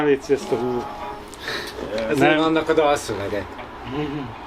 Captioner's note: laughs